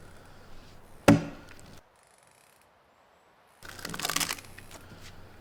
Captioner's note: tool banging; wood breaking